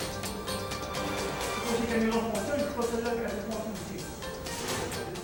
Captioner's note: tense music; gunman speaking French